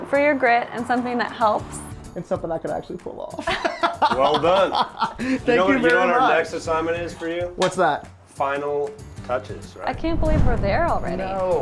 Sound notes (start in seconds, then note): 3.4 laughing